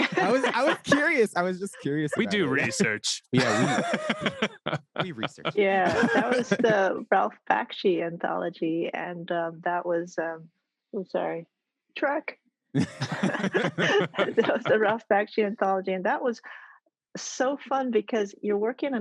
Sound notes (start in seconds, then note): 3.3 laughs; 12.7 all laugh